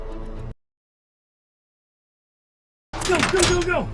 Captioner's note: gun firing